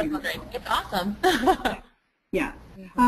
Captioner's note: chuckles